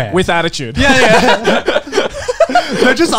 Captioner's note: laughs